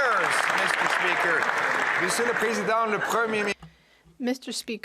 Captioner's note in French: voix de l'interprète